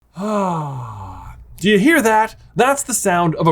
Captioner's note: exhales